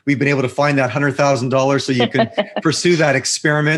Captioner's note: laughs